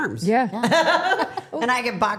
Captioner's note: Steph laughing